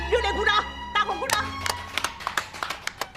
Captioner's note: the applause is loud and clear